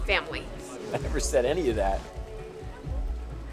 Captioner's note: laughing